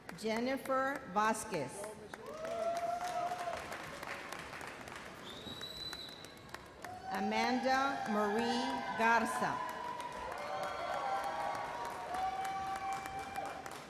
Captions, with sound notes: Jennifer Vasquez. (audience applauds) Amanda Marie Garza. (audience cheers)